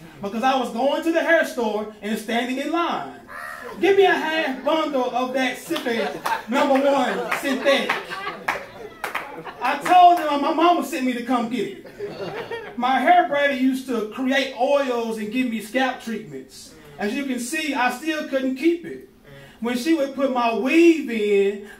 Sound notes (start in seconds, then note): 3.0 crowd laughing; 8.1 laughing; 8.1 slow clapping; 11.8 light laughing